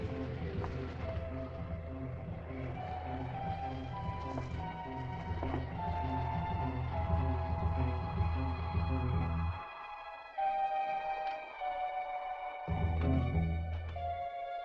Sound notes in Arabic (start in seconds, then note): 0.2 موسيقى تأملية; 6.5 هبوب الرياح